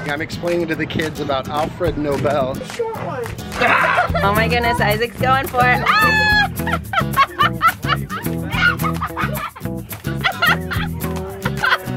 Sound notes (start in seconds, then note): 3.6 exclaims; 5.6 yells